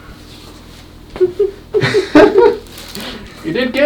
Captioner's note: both laughing